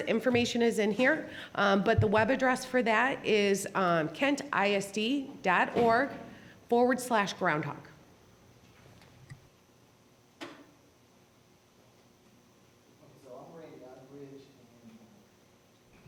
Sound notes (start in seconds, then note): none